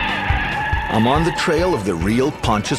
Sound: police sirens

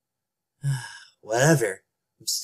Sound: sigh

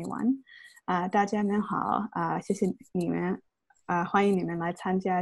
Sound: in foreign language

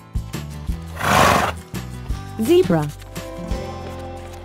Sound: zebra sound

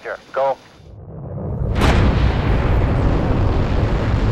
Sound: rocket roars

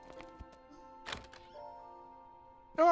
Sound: door opening

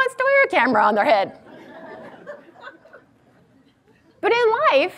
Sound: audience laughs

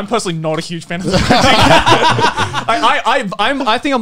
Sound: laughing

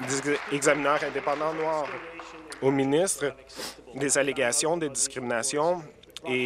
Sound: applause

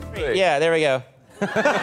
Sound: smile and laugh

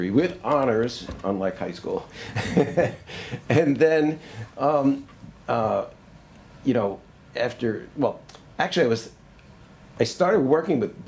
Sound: laughs

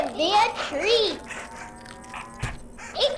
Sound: low warble

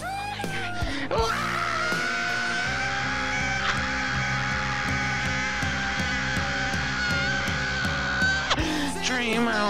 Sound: loud Screaming

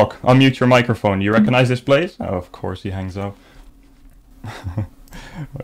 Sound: giggles

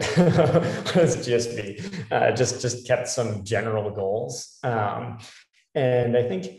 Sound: laugh

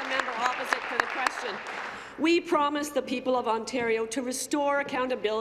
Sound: applause

